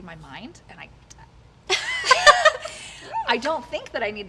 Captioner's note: both laughing